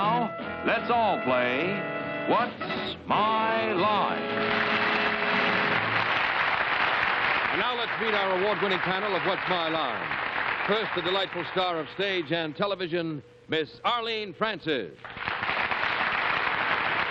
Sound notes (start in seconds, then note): 4.2 applause